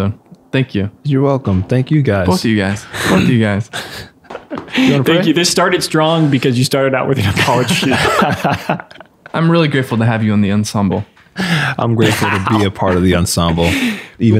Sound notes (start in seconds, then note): 7.1 all laughing